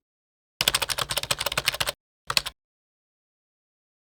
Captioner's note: keys typing